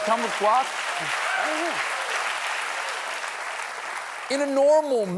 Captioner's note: applause